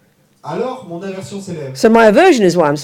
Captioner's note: audience member speaks in French